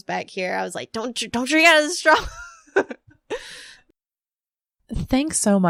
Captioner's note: laughs